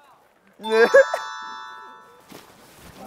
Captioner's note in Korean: 꺄르르